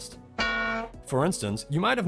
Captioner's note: metalic Bonk